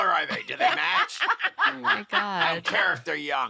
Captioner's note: laughter